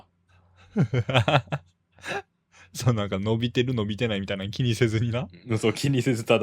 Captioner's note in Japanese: 笑い